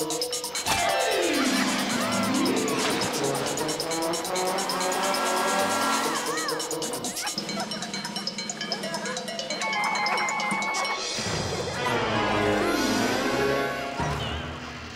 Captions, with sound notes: WHOA! WHOA! (GIGGLES) (GIGGLES) WHOA!